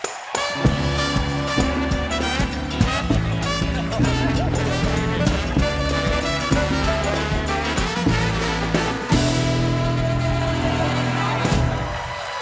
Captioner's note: applause